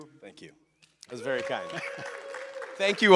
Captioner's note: applause